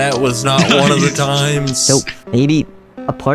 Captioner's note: laughs